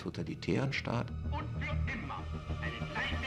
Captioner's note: Hitler speaking German